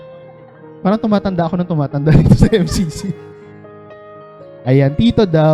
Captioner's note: laughs